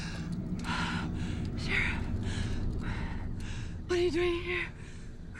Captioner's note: panting